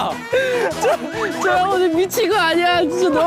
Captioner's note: Tertawa terbahak-bahak